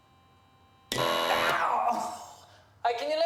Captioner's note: machine blaring; grunting